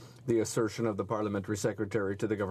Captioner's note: speaking french